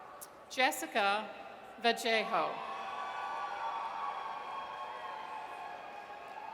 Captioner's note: audience cheers